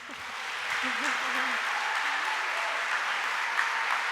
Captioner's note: audience applauding